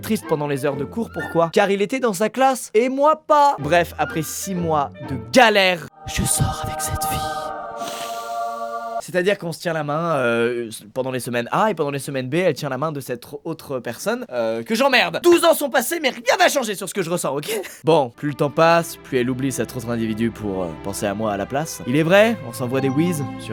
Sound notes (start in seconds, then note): 7.7 deep breath; 17.5 laughs